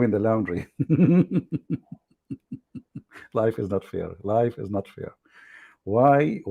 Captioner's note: Ketawa